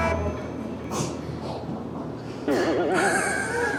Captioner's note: sneezing